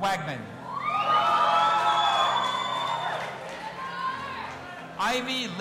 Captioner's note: audience applauding and cheering